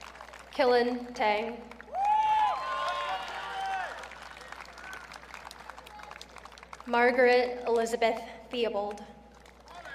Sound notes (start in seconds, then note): 1.8 audience cheering